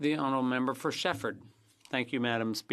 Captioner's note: speaking French